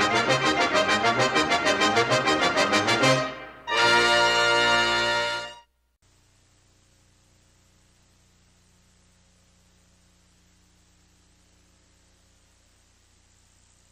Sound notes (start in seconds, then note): 6.1 VHS static